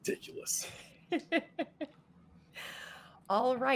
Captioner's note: laughing